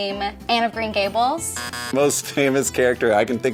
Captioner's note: buzzer beeps